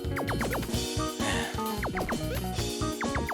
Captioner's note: sigh